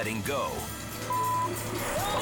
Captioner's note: beep